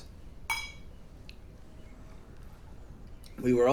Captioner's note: glass clinking